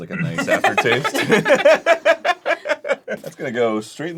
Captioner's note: the boys laugh